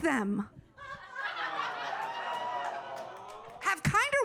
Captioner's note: audience laughing